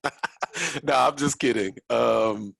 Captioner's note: chuckles